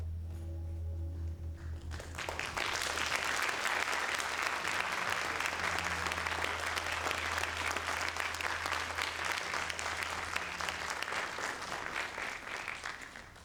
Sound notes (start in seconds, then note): 1.9 audience applauds